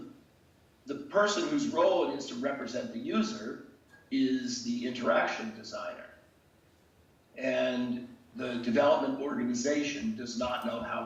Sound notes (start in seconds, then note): none